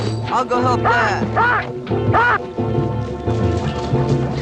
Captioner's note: baboon shouts